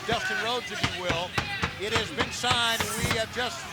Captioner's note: foot thudding